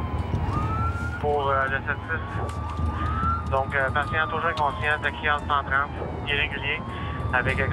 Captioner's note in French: à la radio